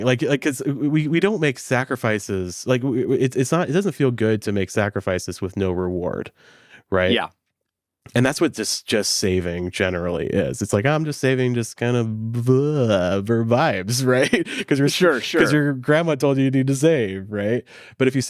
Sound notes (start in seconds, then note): 15.0 groans